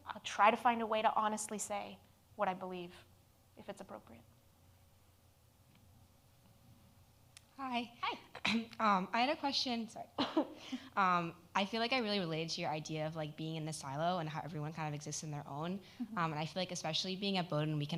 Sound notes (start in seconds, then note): 8.6 clears throat; 10.1 coughs